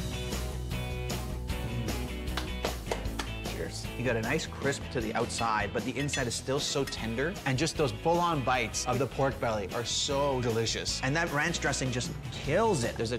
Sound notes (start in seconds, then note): 2.2 clapping